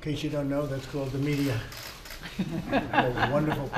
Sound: laughter

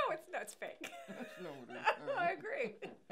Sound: laughing

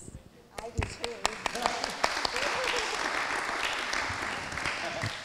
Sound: everyone clapping

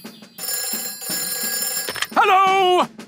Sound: telephone ringing

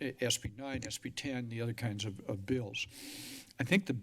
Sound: inhales heavily

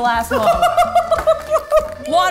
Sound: laughing

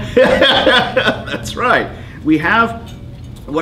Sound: laughing

